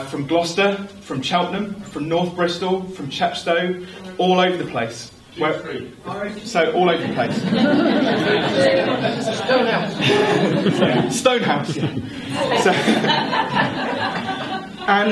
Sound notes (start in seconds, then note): 5.6 man in audience shouts; 7.0 laughter